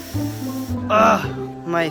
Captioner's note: groan